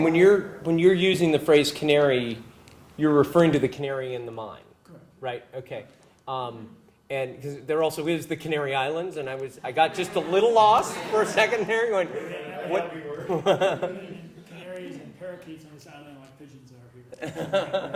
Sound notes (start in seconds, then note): 12.0 laugh; 17.1 laugh